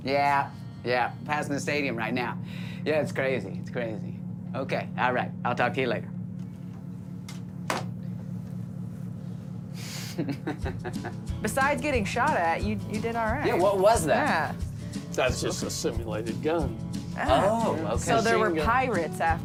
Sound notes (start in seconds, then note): 9.9 laughter